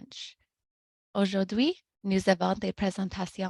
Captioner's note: speaking french